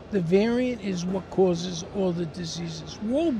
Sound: none

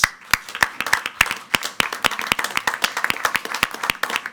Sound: group clapping

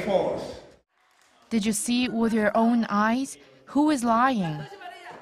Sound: Korean

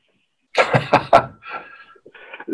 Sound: laughs

